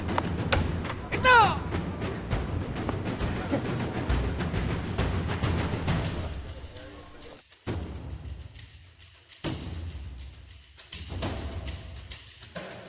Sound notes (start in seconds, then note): 1.2 referee speaks in Tagalog; 2.0 thrilling music continues